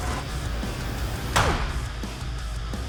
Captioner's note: grunting